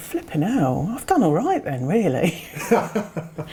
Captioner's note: chuckles